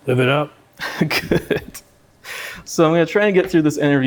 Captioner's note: laughing